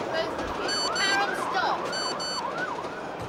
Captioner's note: beeping; sirens